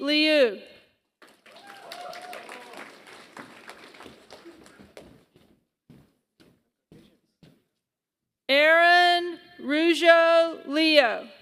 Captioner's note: applause